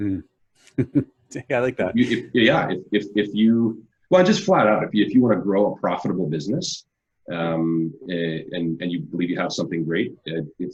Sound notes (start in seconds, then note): 0.7 laughs